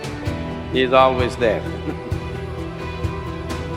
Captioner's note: laughs